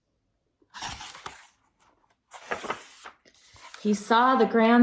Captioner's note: turns page